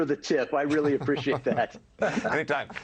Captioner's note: laughter